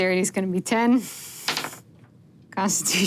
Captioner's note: dice rolling